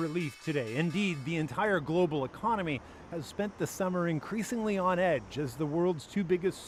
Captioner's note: bell rings